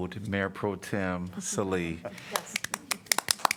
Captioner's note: applause